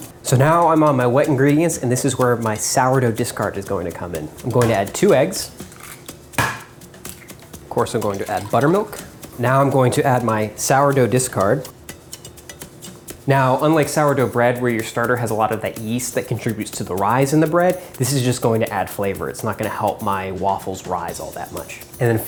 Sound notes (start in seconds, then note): 5.3 egg cracking; 12.0 light music